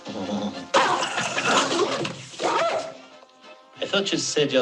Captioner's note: dog snarls